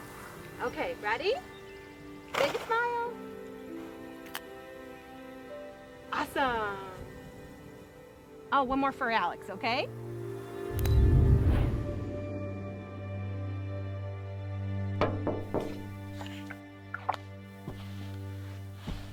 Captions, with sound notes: OK, READY? BIG SMILES. AWESOME. OH, ONE MORE FOR ALEX, OK? [KNOCK]